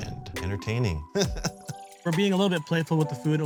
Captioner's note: laughs